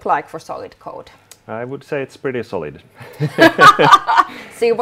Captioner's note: both laughing